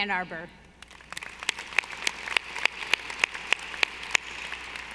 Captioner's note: audience applauding